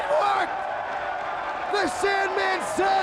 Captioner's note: audience cheers